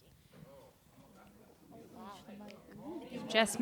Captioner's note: chatter and laughter